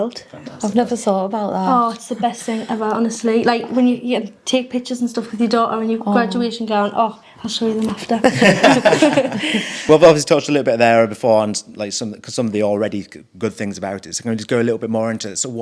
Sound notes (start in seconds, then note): 8.0 all laughing